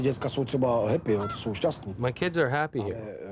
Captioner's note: speaking Czech